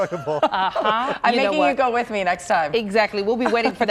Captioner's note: laughter